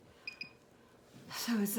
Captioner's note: machine beeps